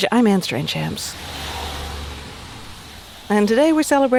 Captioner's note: car engine revving